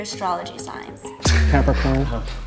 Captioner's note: laughs